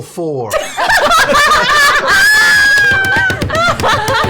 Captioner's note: laughter